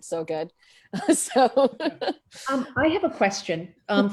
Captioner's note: laughs